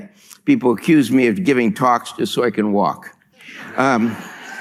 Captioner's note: laughter